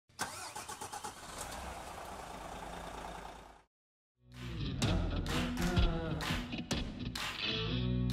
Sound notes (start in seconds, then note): 0.1 engine starting